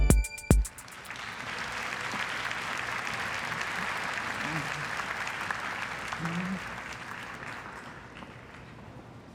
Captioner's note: applause